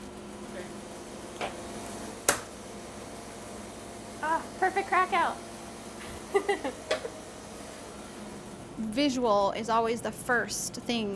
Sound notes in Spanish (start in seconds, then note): 3.3 molde golpeando; 10.0 se ríe